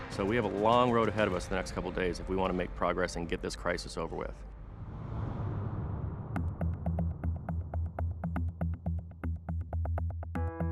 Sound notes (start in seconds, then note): none